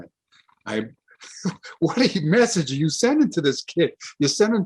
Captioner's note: laughs